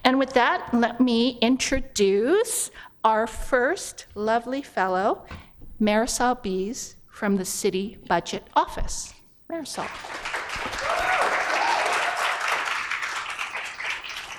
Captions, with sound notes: And, with that, let me introduce our first lovely fellow, Marisol Beas from the City Budget Office. Marisol. [ Applause ]